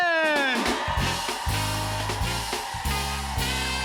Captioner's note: cheers and applause